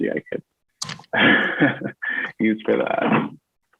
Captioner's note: laughs